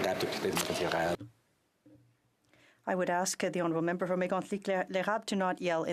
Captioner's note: some Applause